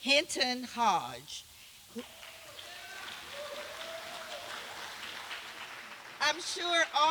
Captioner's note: applause